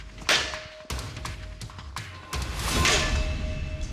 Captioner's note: clanging